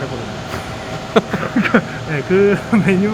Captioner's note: chuckles